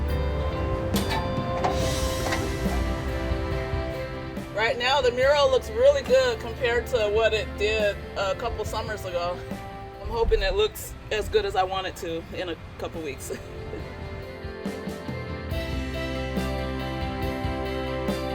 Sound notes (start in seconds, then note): 0.1 gentle music continues; 16.2 laughing; 17.7 gentle music continues